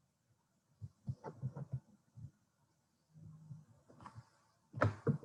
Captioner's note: microphone thudding